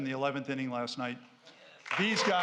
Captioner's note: applause